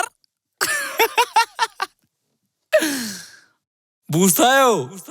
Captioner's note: sarcastic laughter